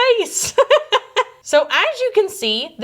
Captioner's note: laughing